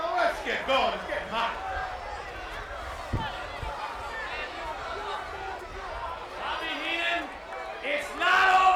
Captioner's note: applause